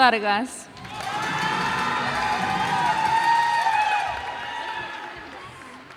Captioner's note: cheers and applause